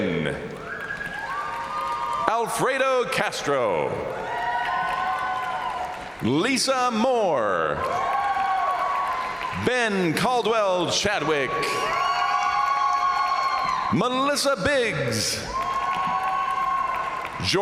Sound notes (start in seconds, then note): 0.1 crowd applauding; 0.1 crowd cheering; 4.6 crowd applauding; 4.6 crowd cheering; 8.1 crowd applauding; 8.1 crowd cheering; 11.5 crowd applauding; 11.5 crowd cheering; 15.3 crowd applauding; 15.3 crowd cheering